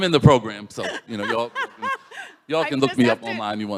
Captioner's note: laughs